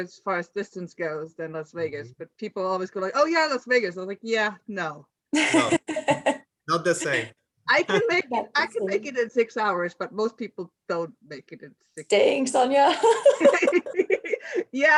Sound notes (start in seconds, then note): 5.3 laughs; 12.9 laugh